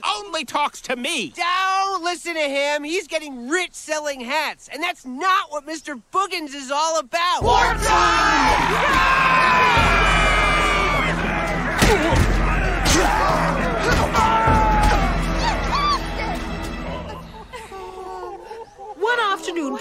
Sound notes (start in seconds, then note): 8.4 citizens yelling; 15.9 citizens groaning